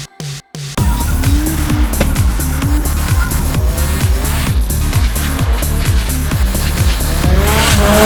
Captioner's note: engine revving, tires screeching